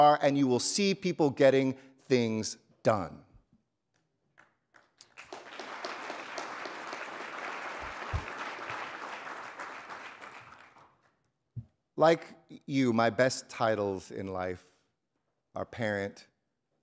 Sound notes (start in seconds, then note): 4.7 audience applauding